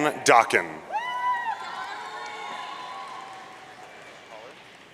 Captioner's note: audience cheering